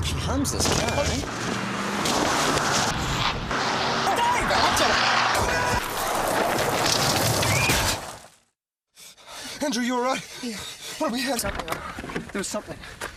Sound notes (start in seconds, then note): 7.2 scream, crash